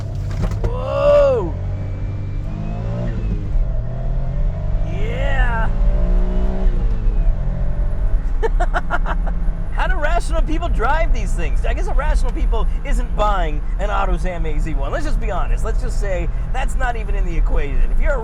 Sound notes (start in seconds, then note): 8.2 laughing